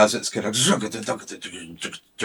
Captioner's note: imitating drums